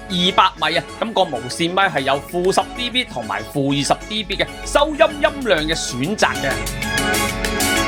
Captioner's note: attenuator